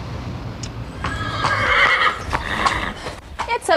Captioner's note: horse neighing